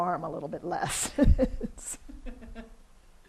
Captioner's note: laughs